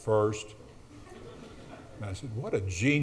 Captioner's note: audience laughs